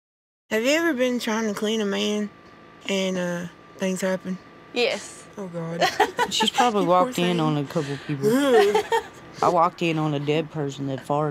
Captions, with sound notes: Have you ever been trying to clean a man, and, uh, things happened? Yes. Oh, god. [LAUGHS] Ew.